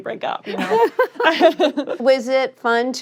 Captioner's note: laughter